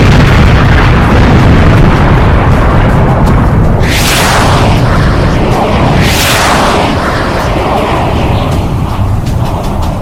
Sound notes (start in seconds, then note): 4.2 jets streaming